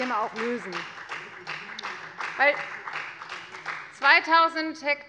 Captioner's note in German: Beifall bei der FDP